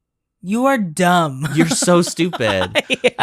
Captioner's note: laughs